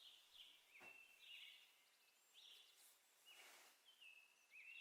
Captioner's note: birds chirping